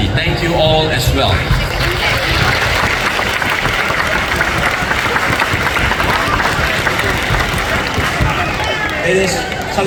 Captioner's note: applause